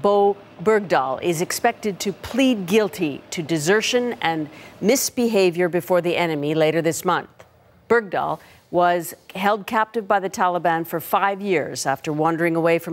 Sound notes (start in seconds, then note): none